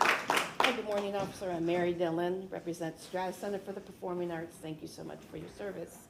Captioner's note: applause